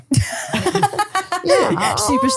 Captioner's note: both laughing